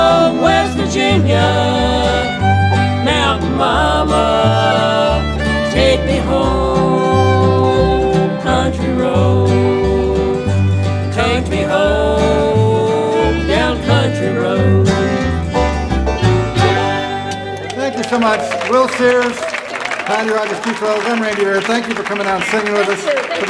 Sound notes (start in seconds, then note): 16.8 audience applauding